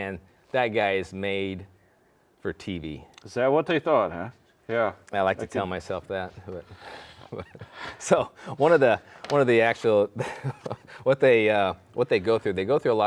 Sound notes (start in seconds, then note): 6.4 chuckling